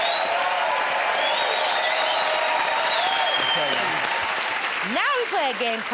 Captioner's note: cheers and applause